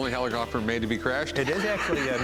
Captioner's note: laughs